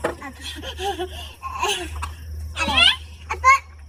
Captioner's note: giggling